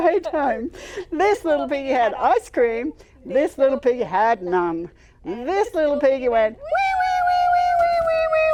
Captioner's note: cry